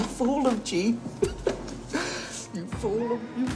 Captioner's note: laughing